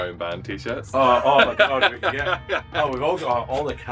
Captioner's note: laughter